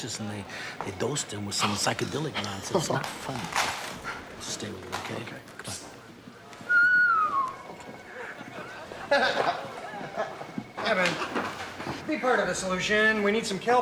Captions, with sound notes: And they got suspicious, and they-they dosed him with some psychedelic nonsense. It's not funny. Stay with him, okay? Come on. Okay. (whistling) (laughs) Evan, be part of the solution.